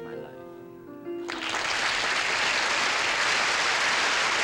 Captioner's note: applause